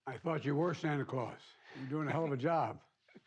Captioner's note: laughter